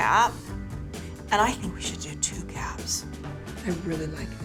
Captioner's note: whispers